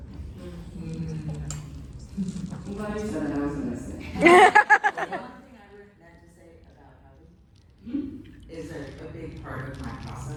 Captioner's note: laughter